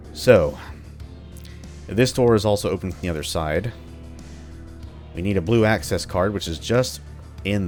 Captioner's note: none